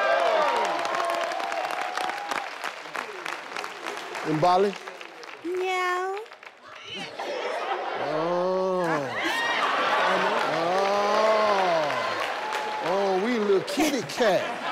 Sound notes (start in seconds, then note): 0.0 audience cheering and clapping; 6.9 all laughing; 11.4 all clapping